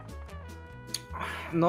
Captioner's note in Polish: mlask